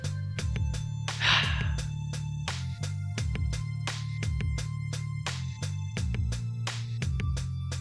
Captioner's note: startles, then sighs in frustration